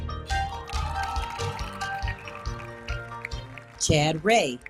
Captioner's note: audience applauding; audience cheering